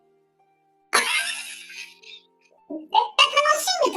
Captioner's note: laughs